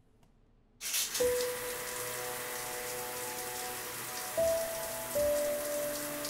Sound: water running and piano music

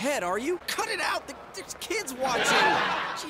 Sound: audience laughs

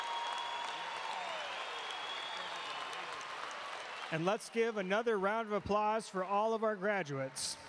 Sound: cheering and Applause

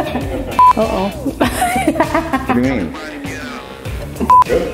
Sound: laughs

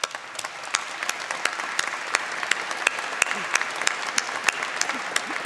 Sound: clapping

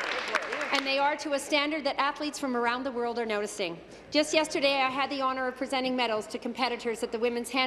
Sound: applause

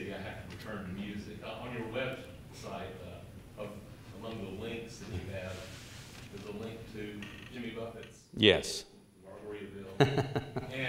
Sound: laughter

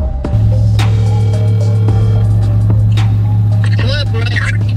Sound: phone ringing

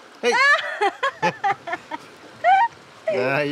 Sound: laughter

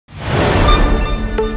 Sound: swoosh

